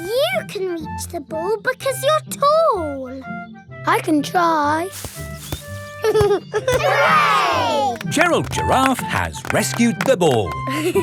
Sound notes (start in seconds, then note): 4.8 leaves rustle; 6.0 giggling